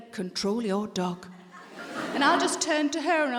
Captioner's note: audience laughing